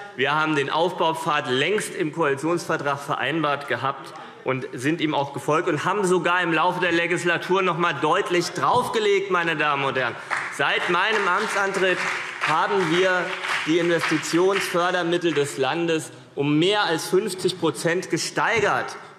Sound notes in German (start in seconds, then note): 10.1 Beifall CDU und BÜNDNIS 90/DIE GRÜNEN